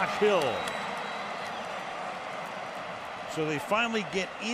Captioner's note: cheering